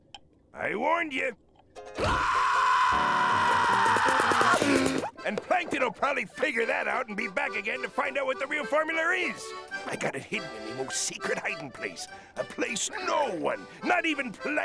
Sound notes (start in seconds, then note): 1.9 screaming